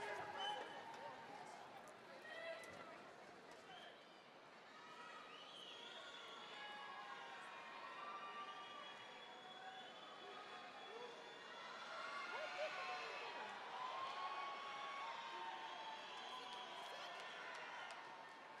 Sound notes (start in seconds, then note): 6.2 audience members whistling and shouting